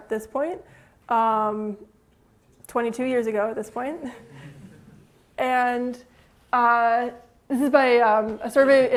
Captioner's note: laughter